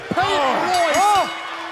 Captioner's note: bell ringing